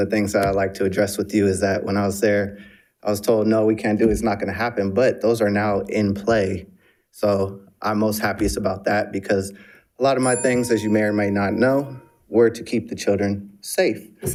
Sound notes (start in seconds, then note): 10.2 bell ringing